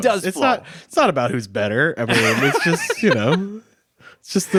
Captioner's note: laughing